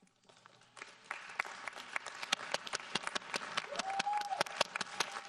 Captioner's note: audience applauding